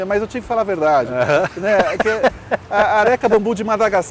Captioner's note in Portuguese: risos